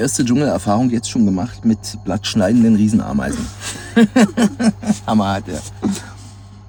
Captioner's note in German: gelächter